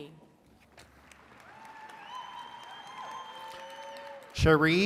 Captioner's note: attendees cheering and clapping